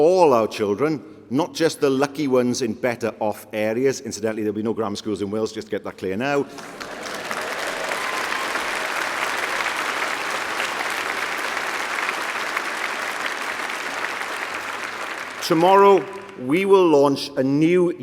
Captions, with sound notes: because we believe that the future belongs to all of our children, not the lucky ones in better off areas, there will be no grammar schools in Wales to make that clear now. (Applause) ,